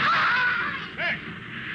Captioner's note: screaming